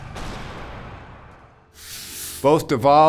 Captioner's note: gun shooting